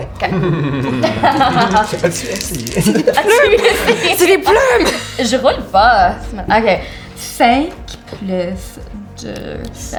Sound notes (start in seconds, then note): 0.2 laughs; 4.3 laughter